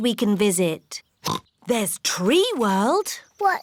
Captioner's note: oinks